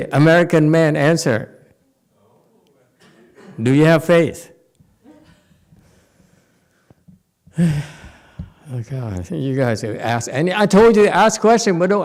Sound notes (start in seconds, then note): 4.5 sighs